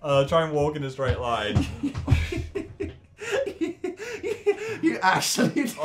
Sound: laughs at misery

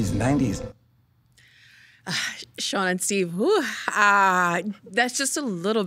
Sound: sighing

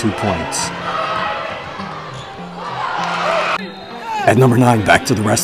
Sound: spectators cheering

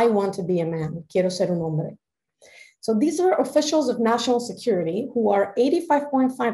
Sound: speaking spanish

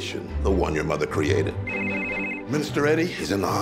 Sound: phone ringing

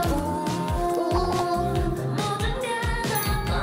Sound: fumbling

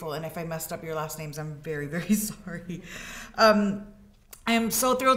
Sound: laughs

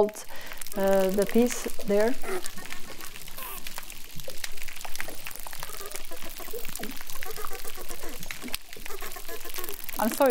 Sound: ticking and repetition sounds over

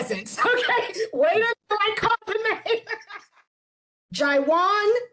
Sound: woman laughing

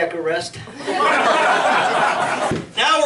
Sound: audience laughs

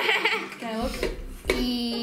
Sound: laughs

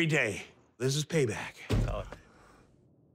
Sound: car door slams

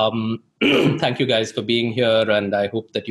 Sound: clears throat

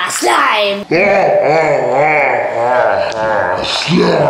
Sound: distorted laugh

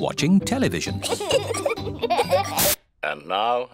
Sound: both giggling

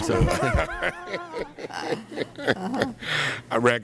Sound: laughter

